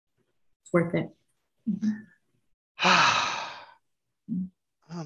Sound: sighing contently

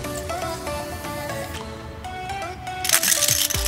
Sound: clicking

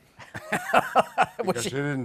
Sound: laughter

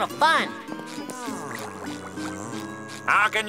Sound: buzzing

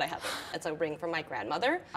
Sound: gasps

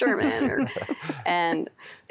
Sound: laughter

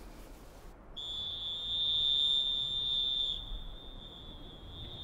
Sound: whistling

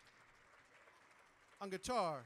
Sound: audience applauding

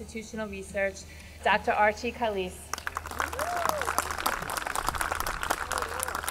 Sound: audience clapping

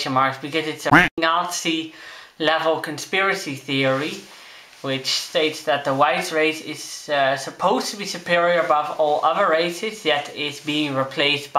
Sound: quack

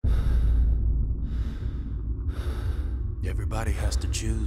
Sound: man panting

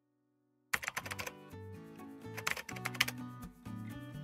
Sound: typing sound

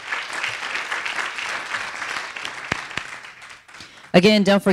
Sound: audience applauding

